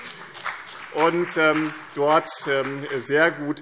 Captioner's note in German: Beifall